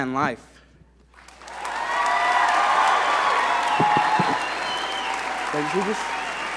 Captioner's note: audience cheer and applaud